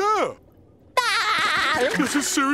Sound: laughing

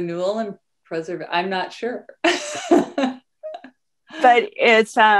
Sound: laughs

